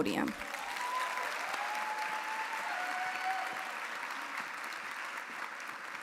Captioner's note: audience applauding; audience cheering